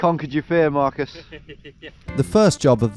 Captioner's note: laughs; chuckling